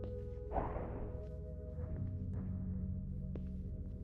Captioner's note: object thudding